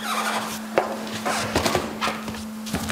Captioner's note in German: Quietschen